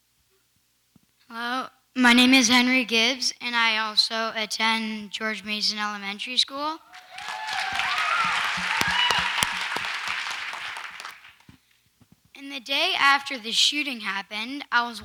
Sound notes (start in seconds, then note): 6.9 audience applauds and cheers